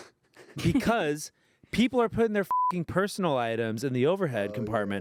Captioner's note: beep